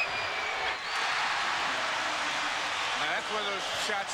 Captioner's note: crowd cheers